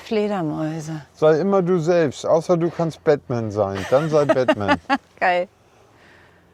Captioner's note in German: gelächter